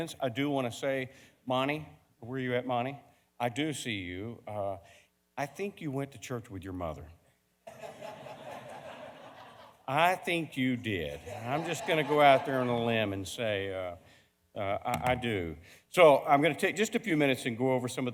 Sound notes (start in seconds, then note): 7.7 audience laughing